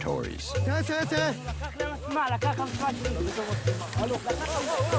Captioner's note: Arabic spoken audio